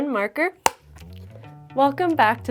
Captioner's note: slate claps